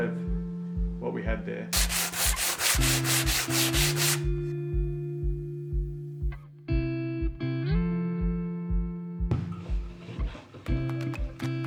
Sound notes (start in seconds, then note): 1.7 sandpaper scratching; 4.9 gentle music